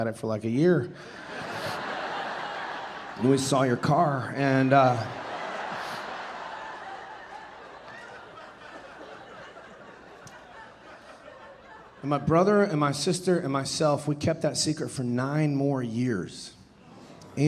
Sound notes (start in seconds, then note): 1.1 audience laughing; 4.5 audience laughing